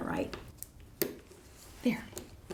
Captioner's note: rivet snapping